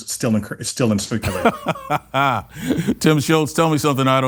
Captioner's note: laughs